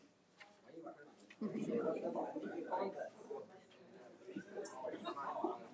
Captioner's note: athletes murmur